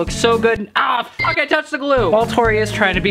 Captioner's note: beep